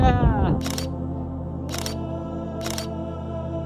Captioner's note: laugh; camera snap